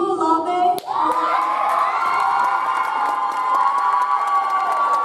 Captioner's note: audience applauds